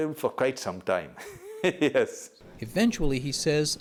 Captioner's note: laughter